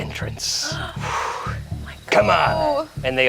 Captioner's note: sighs; gasps